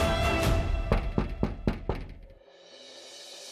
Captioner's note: knocks on the door